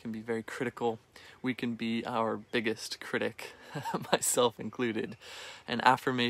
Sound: chuckling

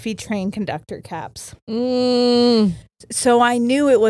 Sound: groans

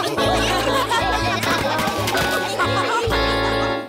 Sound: laughter

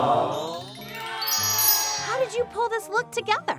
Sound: chimes ding; audience cheers

